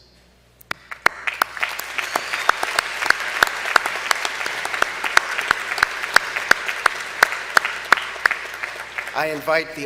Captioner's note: applause